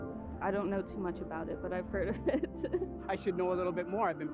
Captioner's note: laughs